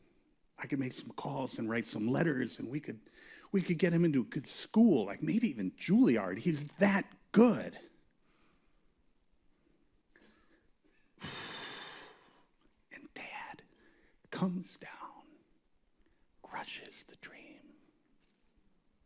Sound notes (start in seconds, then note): 11.2 sighs